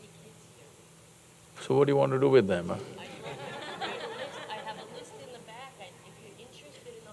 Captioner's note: laughs